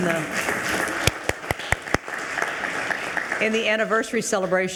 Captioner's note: attendees applauding